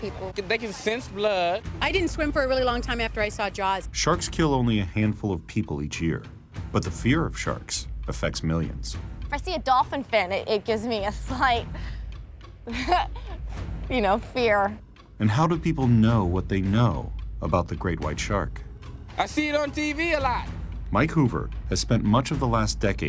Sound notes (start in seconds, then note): 12.6 laughs